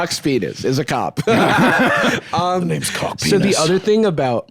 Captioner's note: both laugh